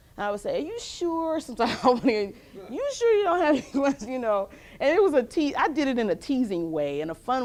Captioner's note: laughs